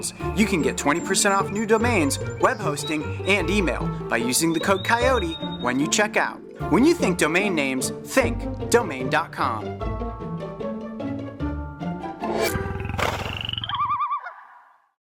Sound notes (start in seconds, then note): 12.7 animal growling, bird hooting